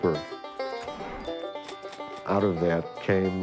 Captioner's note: ding sound effect